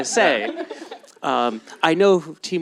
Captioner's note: laughter